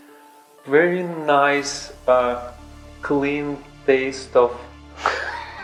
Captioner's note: laughs